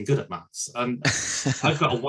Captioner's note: laughs